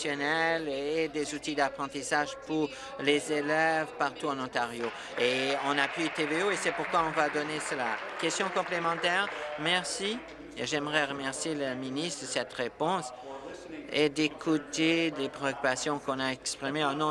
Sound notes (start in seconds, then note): 8.9 applause